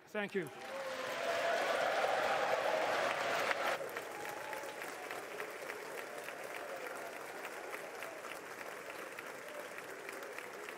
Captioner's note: applause